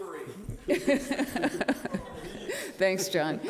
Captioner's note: all laughing